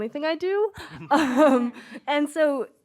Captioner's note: laughter